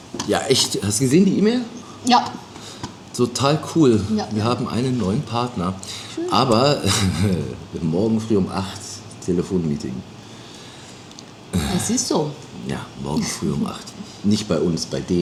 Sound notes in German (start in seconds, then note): 6.7 räuspern